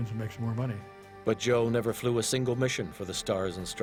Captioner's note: voiceover